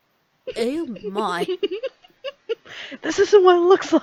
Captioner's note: giggles